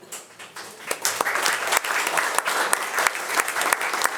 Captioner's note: attendees applauding